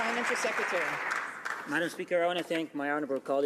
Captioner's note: some Applause